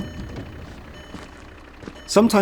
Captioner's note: door alarm dinging